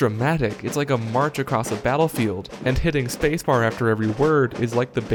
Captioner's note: sound of marching